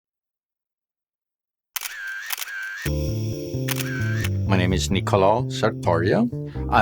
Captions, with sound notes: (camera snapping) - My name is Nicolo Sertorio